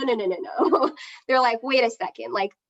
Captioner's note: laughs